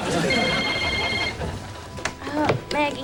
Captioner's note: ringing continues